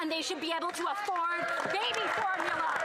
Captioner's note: some Applause